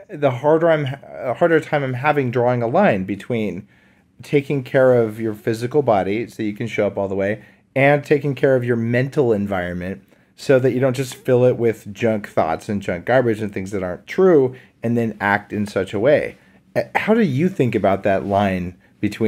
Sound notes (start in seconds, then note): none